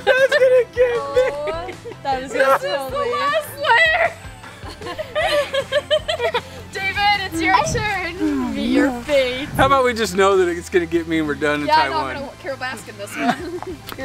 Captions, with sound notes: (laughing) - That's gonna get me! No! - This is the last layer! (laughing) David it's your turn to meet your fate. - How about we just know that it's gonna get me and we're done and Ty won? - Yeah I know how to Carol Baskin this one.